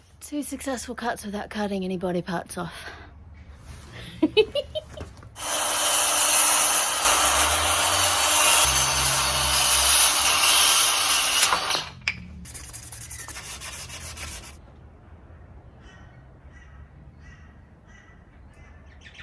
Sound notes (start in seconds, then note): 4.0 giggles joyfully; 5.3 circular saw is loud and continuous; 5.5 small block of wood hits the ground; 12.4 rhythmic sanding noises